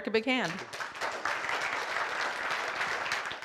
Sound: applause

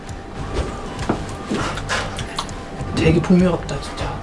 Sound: slurp slurp slurp slurp

